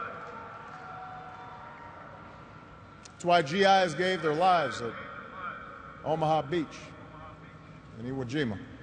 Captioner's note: cheers and applause